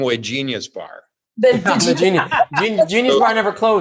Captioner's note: laughing